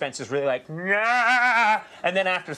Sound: screams

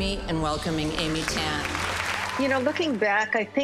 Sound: audience applauding

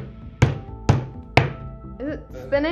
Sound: hammer thudding

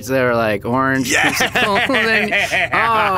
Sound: laughs

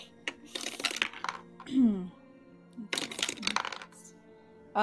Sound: dice clank

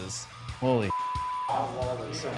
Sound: beep

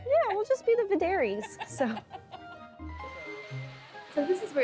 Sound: interviewer laughs

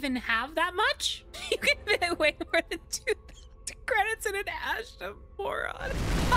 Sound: laughing

